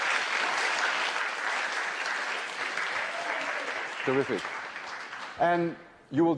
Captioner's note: applause